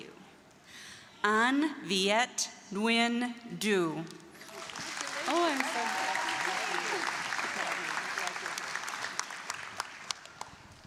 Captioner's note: applause